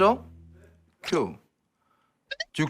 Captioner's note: talking to himself